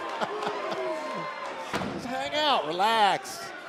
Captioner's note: laughter